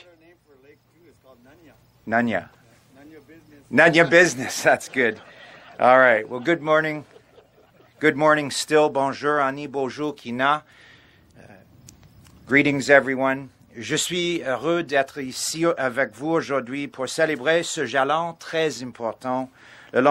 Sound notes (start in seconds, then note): 14.5 speaking French